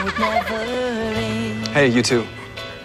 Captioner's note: kids giggling